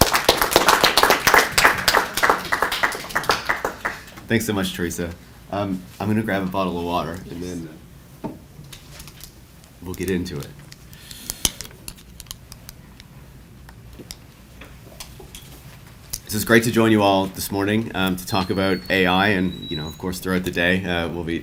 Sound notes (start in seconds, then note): 0.0 audience applauds; 11.7 bottle crunching